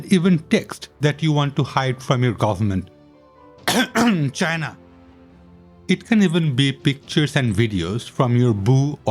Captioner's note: cough cough